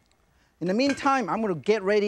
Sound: lid clinks

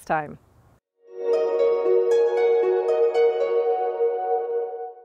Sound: bright chimes ring

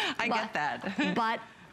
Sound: laughter

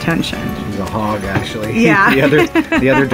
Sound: laughs

